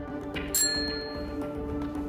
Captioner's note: Call bell dings